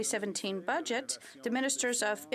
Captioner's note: speaking French